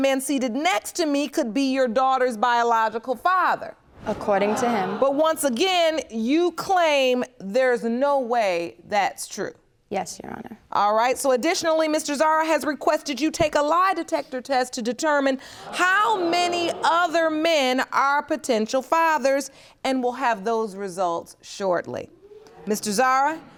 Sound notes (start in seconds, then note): 13.6 audience gasps